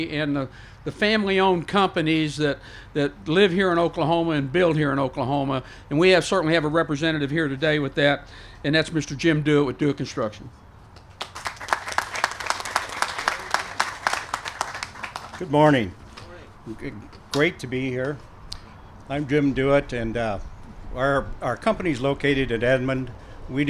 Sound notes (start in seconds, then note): 11.0 applause